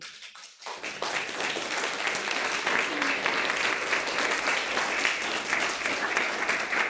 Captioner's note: applause